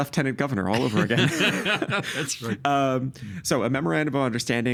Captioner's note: laughing